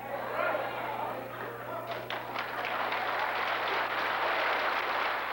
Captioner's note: applause